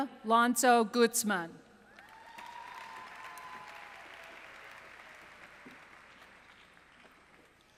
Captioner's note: applause